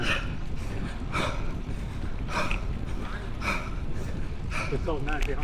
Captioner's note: breathing